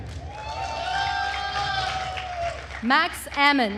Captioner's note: attendees cheering and applauding